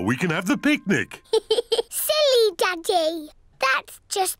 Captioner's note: giggles